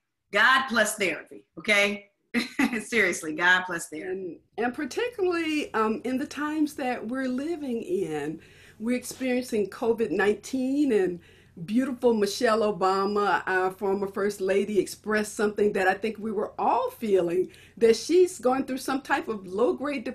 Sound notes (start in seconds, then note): 1.9 laughs